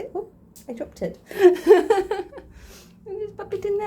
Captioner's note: laughing